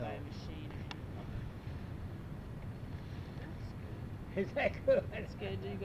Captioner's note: laughs